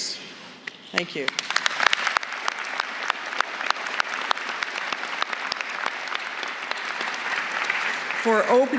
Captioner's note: applause